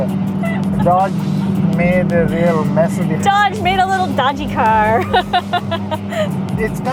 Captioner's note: laughs